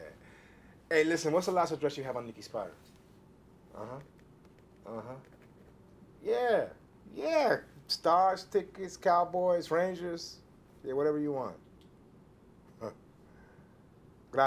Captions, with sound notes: Hey, listen, what's the last address you have on Nikki Spider? Uh-huh, uh-huh. (pen scratching) Yeah, yeah! Stars tickets, Cowboys, Rangers. Yeah, whatever you want. (chuckles)